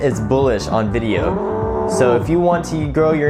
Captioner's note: bull mooing